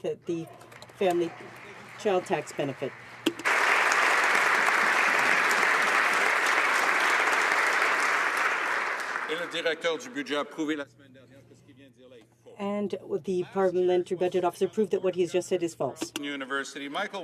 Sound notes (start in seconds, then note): 6.9 some Applause